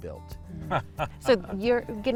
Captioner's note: laughing